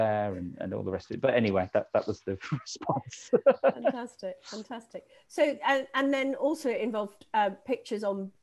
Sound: laughing

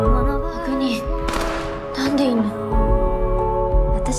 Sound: gunshots

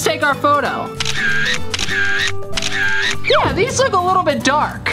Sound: camera clicks

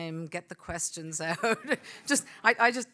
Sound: laughs

